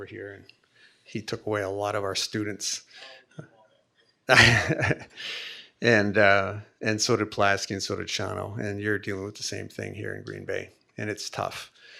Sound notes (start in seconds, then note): 3.0 speaking faintly off mic; 4.3 laughing